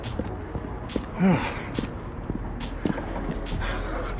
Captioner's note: panting